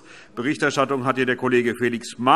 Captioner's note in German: none